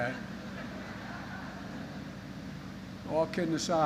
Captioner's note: laughter